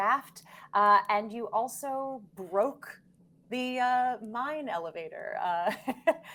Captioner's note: laughs